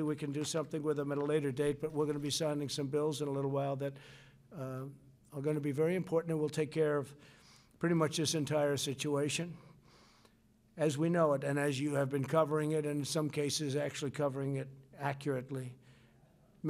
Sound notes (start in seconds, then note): none